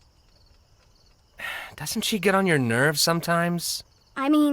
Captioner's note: sighs